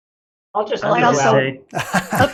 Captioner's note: laughter